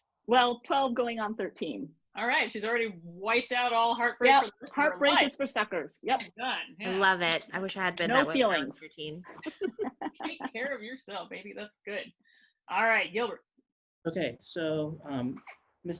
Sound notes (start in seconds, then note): 9.3 laughing